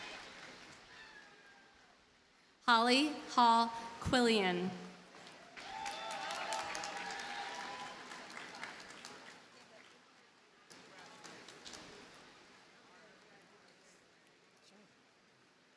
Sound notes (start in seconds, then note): 5.2 audience cheers and applauds